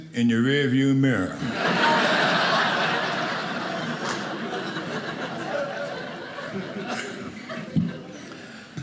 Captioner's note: audience laughing